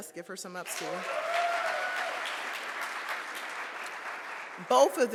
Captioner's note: audience applauds